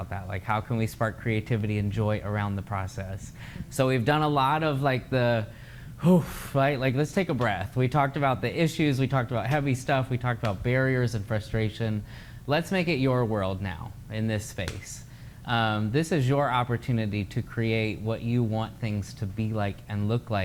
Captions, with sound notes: Like how can we spark creativity and joy around the process. So we've done a lot of like the [exhales]. Like, let's take a breath. We talked about the issues, we talked about heavy stuff. we talked about barriers and frustration. Let's make it your world now, in this space. This is your opportunity to create what you want things to be like and look like